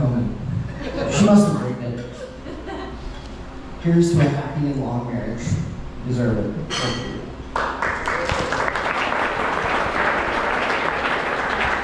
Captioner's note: applause